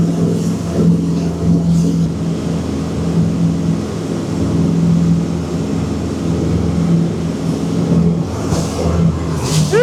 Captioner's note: engine revving